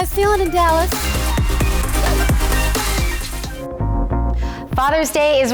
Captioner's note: audience cheering